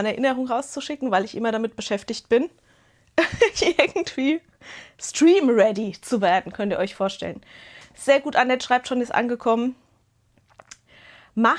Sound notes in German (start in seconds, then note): 3.2 Gelächter